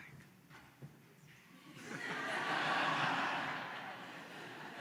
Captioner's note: laughter